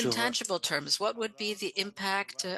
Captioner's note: speaking French